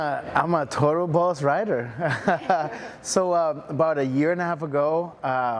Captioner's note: laughs